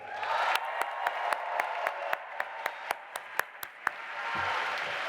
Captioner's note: audience applauding and cheering